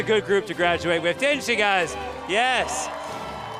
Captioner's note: audience cheering